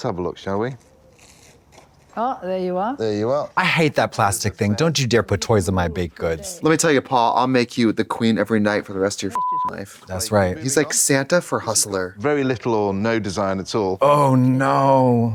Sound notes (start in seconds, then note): 9.3 beep